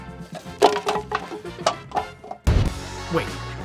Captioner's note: laughs